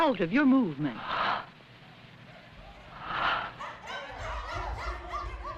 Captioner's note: breathing heavily; barking, shouting